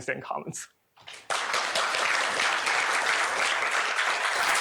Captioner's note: applause